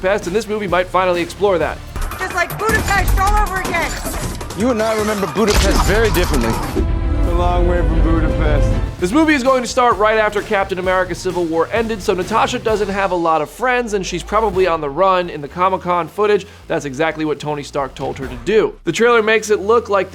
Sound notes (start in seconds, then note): 3.9 guns firing